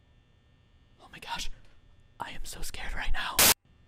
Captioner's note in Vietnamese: thì thầm với người xem